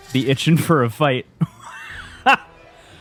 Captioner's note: laughs